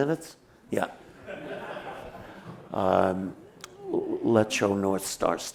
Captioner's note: laughter